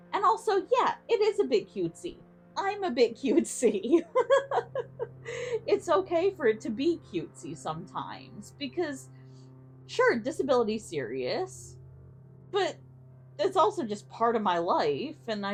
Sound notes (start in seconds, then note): 3.6 laughs